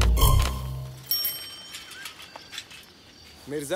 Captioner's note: Birds chirping; Bicycle bell ringing